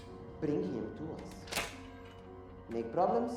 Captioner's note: safe latch clicking